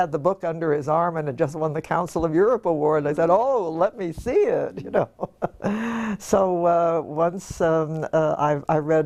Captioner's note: laugh